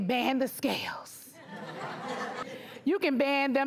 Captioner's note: audience laughs